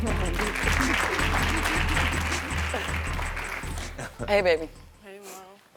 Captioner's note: audience applauding